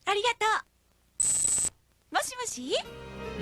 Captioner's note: high pitch electric beep x2